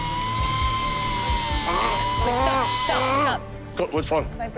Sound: saw buzzing

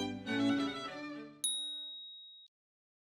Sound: bell dinging

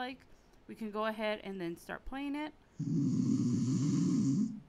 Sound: snoring sounds

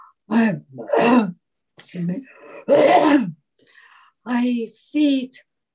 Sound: clears throat

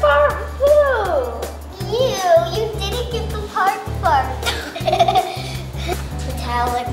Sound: laughs

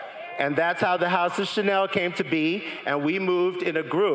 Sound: crowd laughing

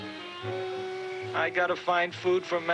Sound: crickets chirping

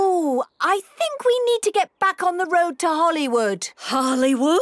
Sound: none

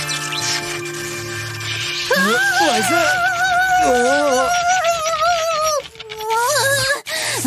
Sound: chattering teeth

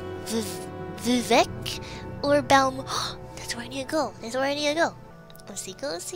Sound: gasp

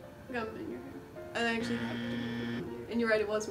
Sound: incorrect buzzer

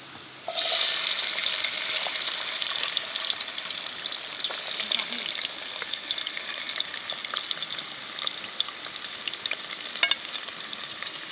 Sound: oil sizzling

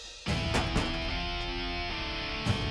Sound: van door closes

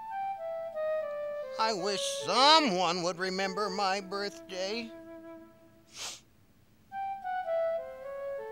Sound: sniff

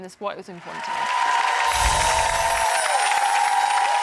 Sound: crowd cheering

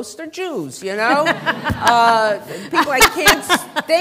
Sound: laughter

